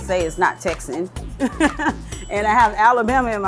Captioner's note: laughs